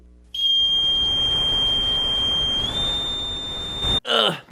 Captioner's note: whistle blowing